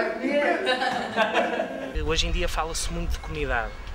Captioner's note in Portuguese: risos